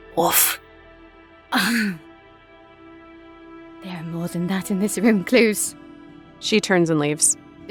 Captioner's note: scoffs